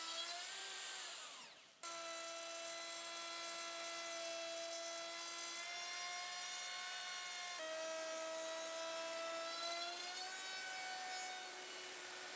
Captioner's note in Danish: Router Sound